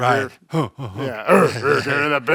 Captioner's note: grunting